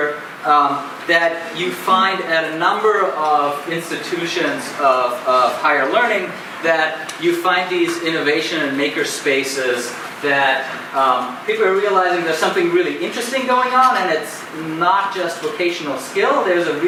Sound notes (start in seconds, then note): none